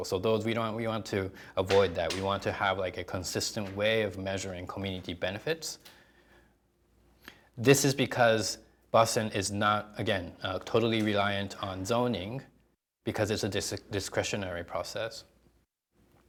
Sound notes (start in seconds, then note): none